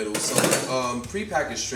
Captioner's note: knife thuds